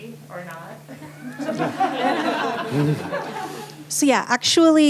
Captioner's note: laughter